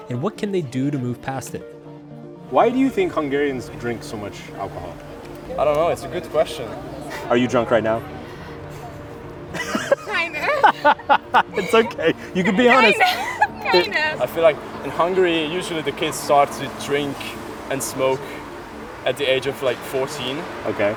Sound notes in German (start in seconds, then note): 9.5 lacht